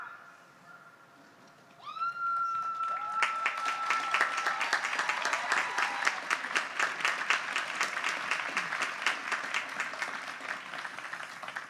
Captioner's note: applause